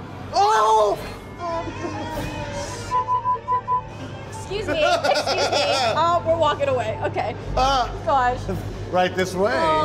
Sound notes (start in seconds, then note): 0.0 eerie music; 2.8 beeping